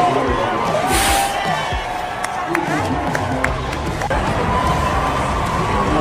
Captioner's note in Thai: ปรบมือ